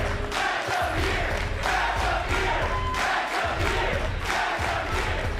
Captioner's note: crowd cheering